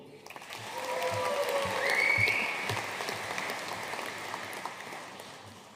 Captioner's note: audience cheering and applauding